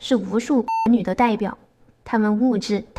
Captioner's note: beep